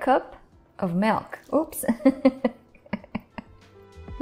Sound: chuckling

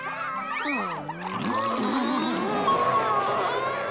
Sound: neighing

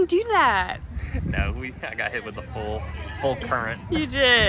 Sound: laughs

